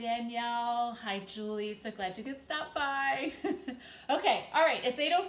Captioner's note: chuckles